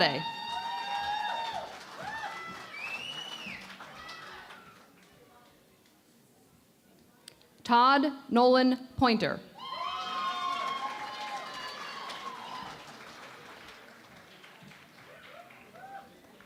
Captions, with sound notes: [ Cheering and Applause ] Todd Nolan Poynter. [ Cheering and Applause ]